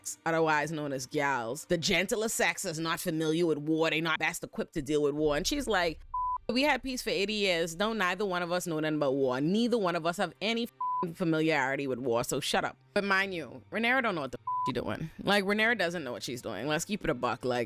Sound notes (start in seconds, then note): 5.9 beep; 14.4 beep